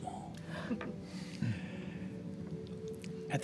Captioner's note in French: petit rire